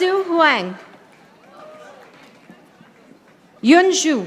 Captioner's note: audience applauding